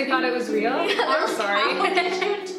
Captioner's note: both laugh